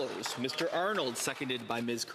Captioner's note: some Applause